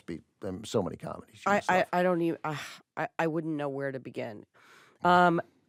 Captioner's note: sighs